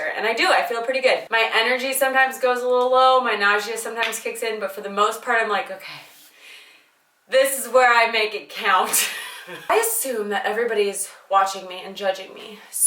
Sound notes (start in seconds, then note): 8.9 laughing